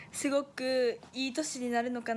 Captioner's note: speaking in foreign language